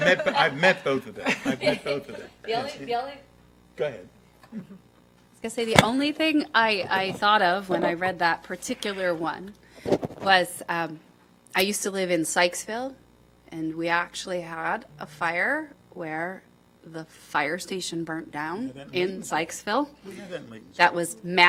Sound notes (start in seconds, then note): 4.5 laughter